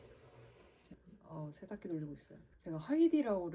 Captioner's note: washing machine running